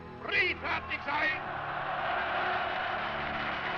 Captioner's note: crowd cheering